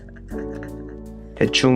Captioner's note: laughs in happiness